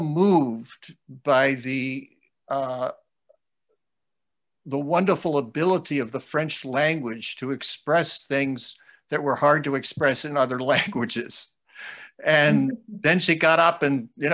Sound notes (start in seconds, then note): 10.6 laughs